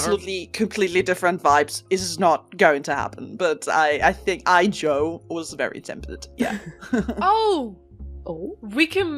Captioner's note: laughs